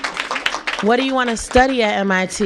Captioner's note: applause